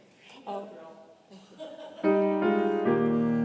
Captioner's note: congregation laughing; laughs